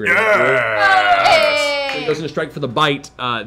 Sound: cheering

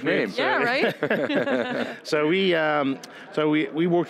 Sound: group laughs

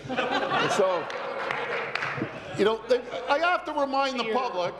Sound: laughter

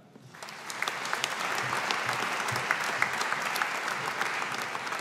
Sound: audience applauding

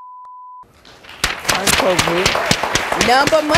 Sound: audience applauding

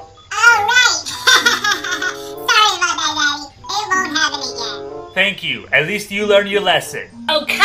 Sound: laughs

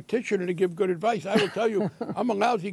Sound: laughter

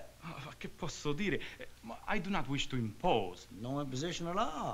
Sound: speaking italian

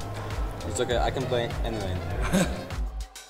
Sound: laughs

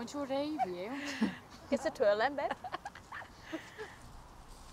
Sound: girls laugh; lucy laughs

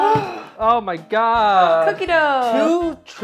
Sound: gasp

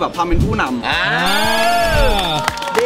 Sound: cheering; applauding; applauding continues

